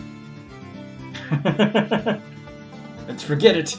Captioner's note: laughs